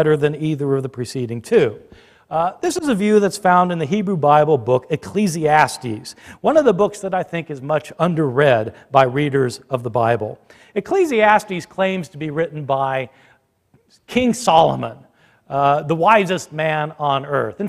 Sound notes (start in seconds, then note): none